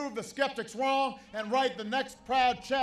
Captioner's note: applause